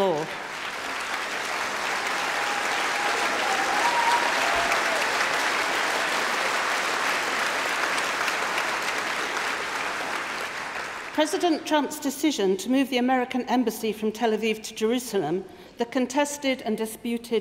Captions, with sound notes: taking control of territory outside its borders and integrating it unilaterally into its own jurisdiction. This is against international law. (Applause)